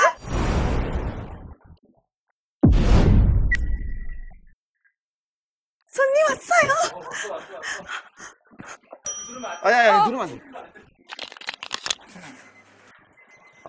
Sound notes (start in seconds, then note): 9.0 ding